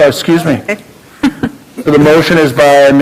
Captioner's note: chuckling